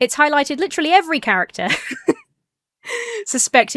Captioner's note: laughs